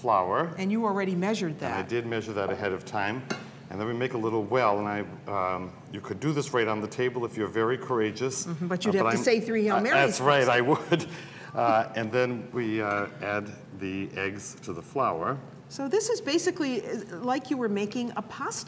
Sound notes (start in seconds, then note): 11.3 laughs